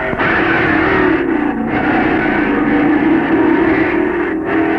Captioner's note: tires squealing